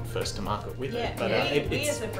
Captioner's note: crowd